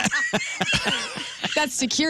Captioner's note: laughing